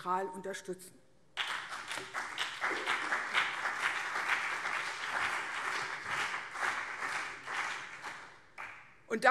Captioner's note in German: Beifall CDU und BÜNDNIS 90/DIE GRÜNEN